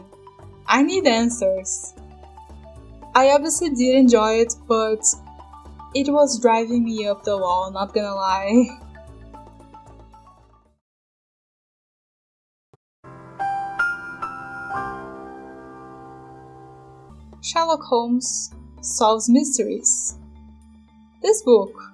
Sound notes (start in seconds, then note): 11.2 the more you know sound